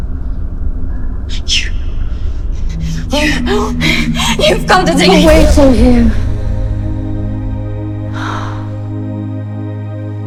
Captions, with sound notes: - You, (hyperventilating) you've come to take-- - Take you away from here. (warm synth music)